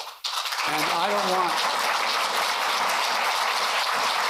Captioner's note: applause